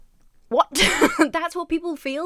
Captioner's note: Emma laughs